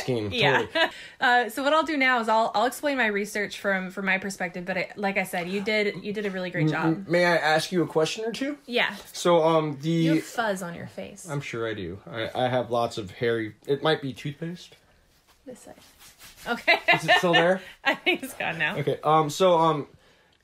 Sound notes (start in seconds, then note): 16.6 laughs